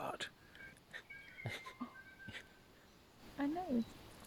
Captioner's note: avian Giggles